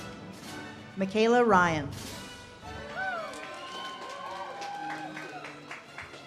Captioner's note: audience cheers and claps